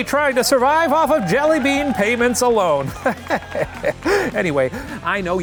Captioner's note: laughs